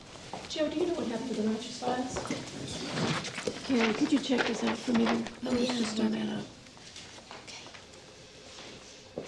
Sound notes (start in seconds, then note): 6.9 whispers